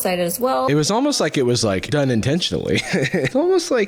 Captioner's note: laughs